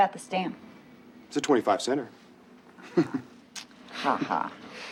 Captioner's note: laughs